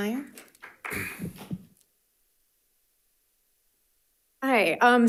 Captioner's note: audience applauding